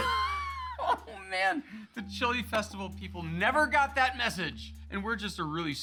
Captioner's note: laughing